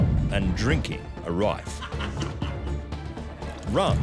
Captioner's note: man laughing